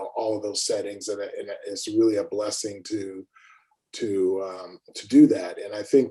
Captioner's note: mmm